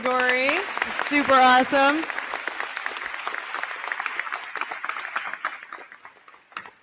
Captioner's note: crowd clapping; crowd cheering